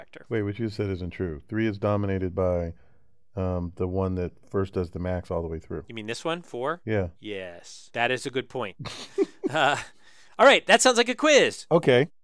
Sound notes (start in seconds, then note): 8.8 laugh